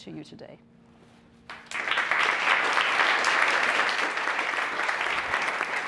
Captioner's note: applause